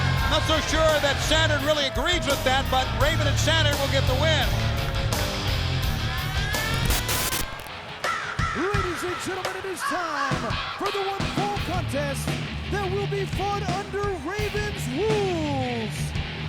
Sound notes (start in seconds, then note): 7.2 TV static hissing